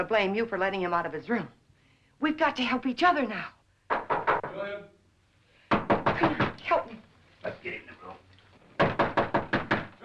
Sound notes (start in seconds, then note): 3.9 loud knocking; 8.8 loud knocking